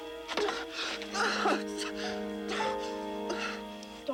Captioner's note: Tater yelping